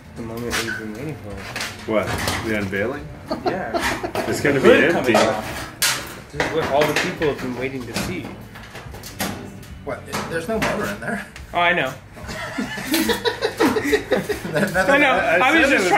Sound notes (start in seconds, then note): 0.2 small Voice; 3.6 small Voice; 5.8 small Voice; 11.6 small Voice; 12.2 laughs; 15.1 small Voice